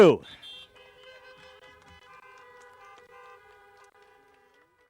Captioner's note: applause